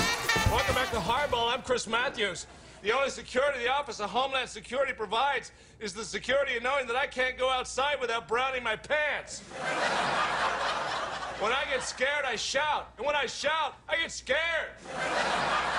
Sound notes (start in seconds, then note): 9.4 crowd laughing